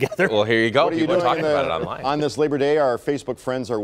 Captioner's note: laughter